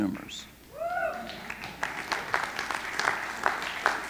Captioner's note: audience cheering